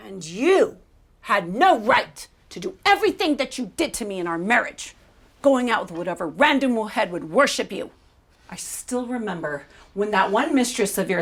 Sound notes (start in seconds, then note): 6.8 spanish